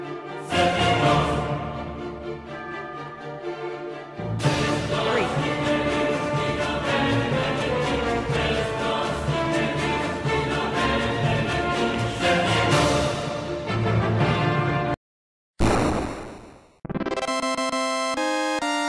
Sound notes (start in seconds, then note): 15.6 terrible Explosion Sound